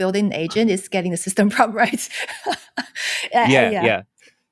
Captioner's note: laughs